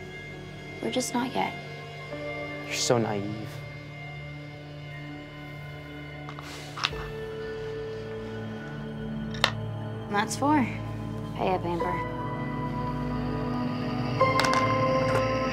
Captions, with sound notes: We're just not yet. You're so naive. [ GAME PIECE CLICKS ] That's four! Pay up, Amber.